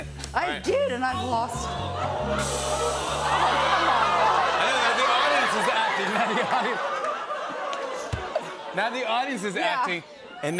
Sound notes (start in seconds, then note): 1.5 audience ohhs; 6.8 laughter